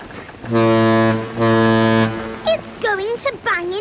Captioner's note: ship horn blowing